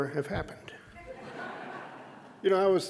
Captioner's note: audience laughing